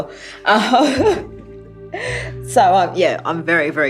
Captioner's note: chuckling